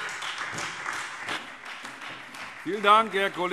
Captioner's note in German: Beifall Freie Demokraten und SPD